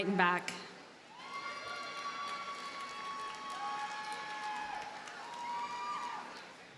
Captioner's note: audience cheers and applauds